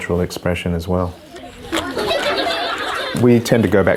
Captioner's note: children laughing